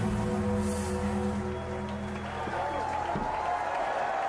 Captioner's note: gong tolling; crowd cheering